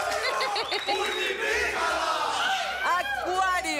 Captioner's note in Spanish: Gritos y exclamaciones